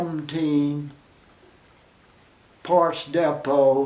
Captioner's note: pause